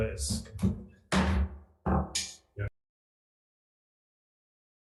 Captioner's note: gavel thumps